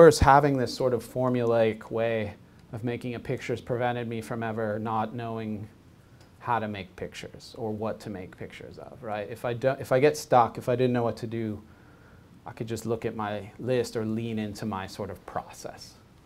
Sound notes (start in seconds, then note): none